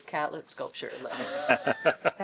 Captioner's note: laughter